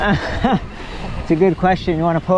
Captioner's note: laughs